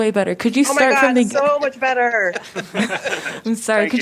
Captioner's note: laughter